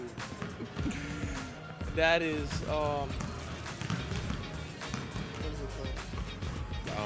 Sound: laughing

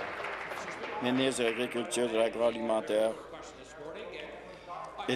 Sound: applause

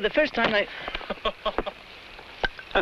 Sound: men laughing; sombrero whacking

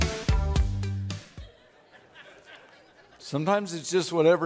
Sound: laughing

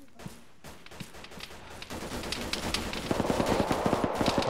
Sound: gunfire

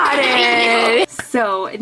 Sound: all laughing

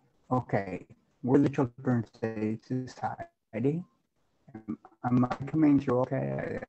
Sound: audio cutting out

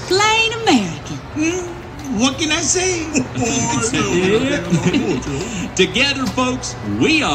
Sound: laughter

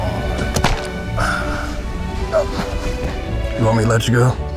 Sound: groans

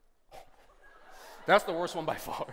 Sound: laughter

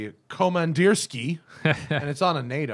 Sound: laughter

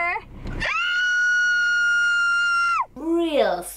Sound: screams

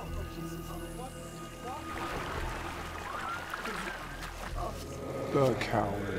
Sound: ominous music; water splashing

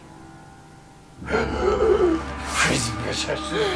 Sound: Derek gasps

